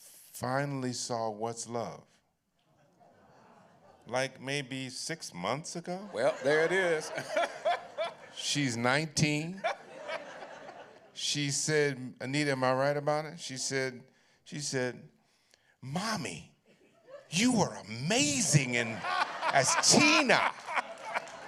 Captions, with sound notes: finally saw What's Love. Like maybe six months ago. -There it is. [laughter] -She's 19. Anita, am I right about it? She said, "Mommy, you were amazing as Tina."